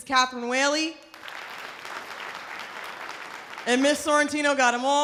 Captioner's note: audience applause